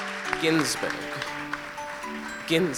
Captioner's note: ^applause^